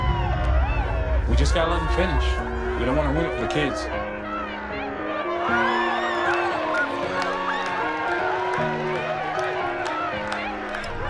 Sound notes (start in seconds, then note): 4.1 piano music; 6.0 crowd cheering